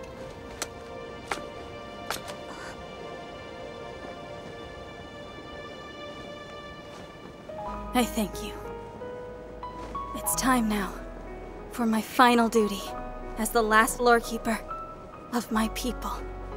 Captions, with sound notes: [footsteps approaching] [gasps] I thank you. It's time now for my final duty as the last Lorekeeper of my people.